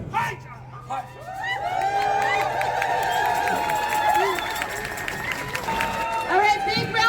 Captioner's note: applause